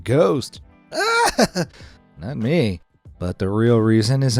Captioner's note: screams